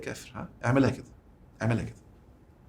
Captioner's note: sarcasm!